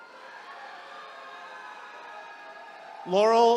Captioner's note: attendees cheering